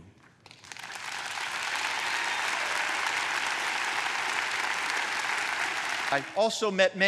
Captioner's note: applause